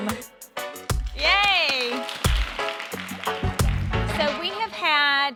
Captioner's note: everyone applauding